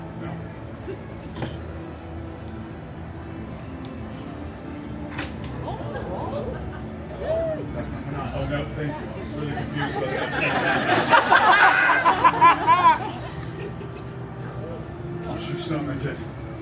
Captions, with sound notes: No. [guests gasping] Oh, no. Thank you. I was really confused about that one. [guests laughing] Oshtur’s Stone. That’s it!